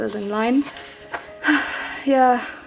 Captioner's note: sighs